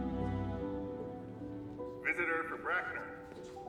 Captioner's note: man over p.a